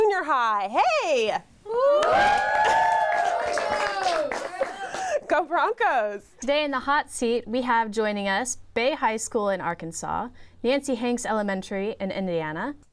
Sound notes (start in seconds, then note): 1.8 kids yell and cheer